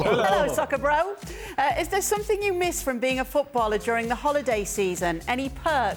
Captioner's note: laughter